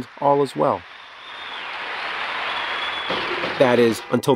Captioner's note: crowd cheers